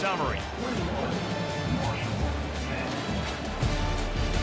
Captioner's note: pa announcement; energetic music